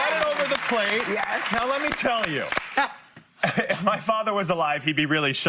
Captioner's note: applause